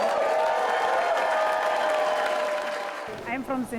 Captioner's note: cheering and applause